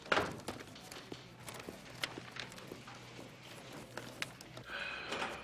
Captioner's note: footsteps pounding